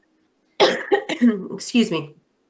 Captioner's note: coughing